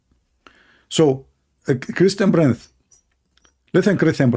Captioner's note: mimicking Zakir Naik